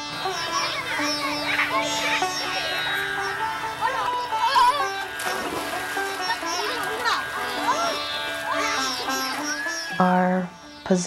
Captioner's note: sounds of children playing